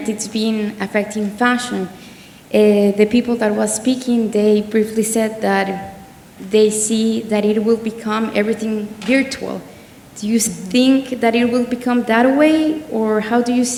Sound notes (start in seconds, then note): none